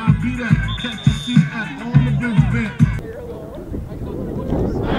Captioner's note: whistle blowing